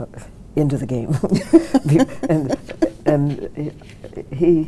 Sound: both chuckling

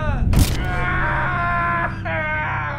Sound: Sean screams; bone crunches; sledge hammer thuds; Sean screams

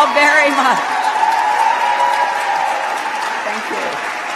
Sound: cheers

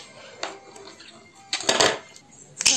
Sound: a sound of falling pen

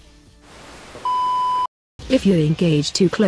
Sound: signal-lost sound effect

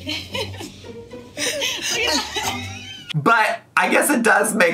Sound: laughs

